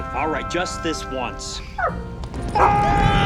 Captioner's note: dog whimpers; all chuckling